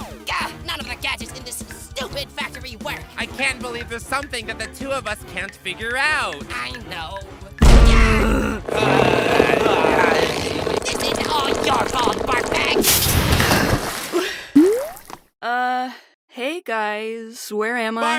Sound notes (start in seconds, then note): 14.1 sharp inhale